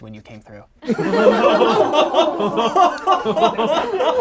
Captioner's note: group laughs